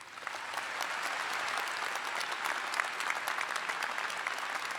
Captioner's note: audience applauding